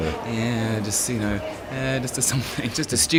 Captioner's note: faintly speaking